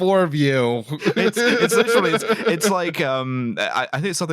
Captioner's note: laughter